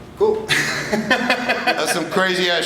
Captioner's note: laughs